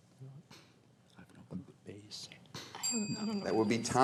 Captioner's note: team whispering; bell rings